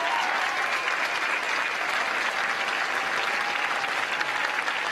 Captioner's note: applause